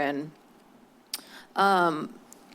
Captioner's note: clicks tongue